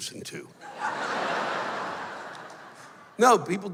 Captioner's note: laughter